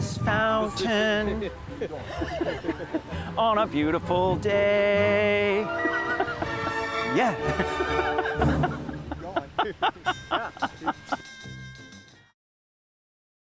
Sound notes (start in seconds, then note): 1.7 laughter; 9.2 laughing; 9.9 jazzy music